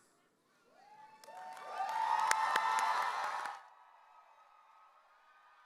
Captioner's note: audience cheering